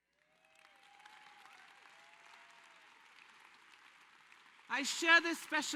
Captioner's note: applause